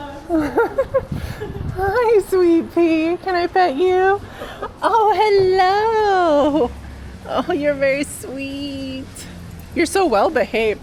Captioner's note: laughing